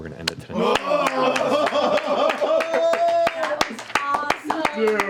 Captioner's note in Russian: аплодисменты